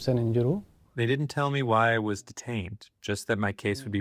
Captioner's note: through translator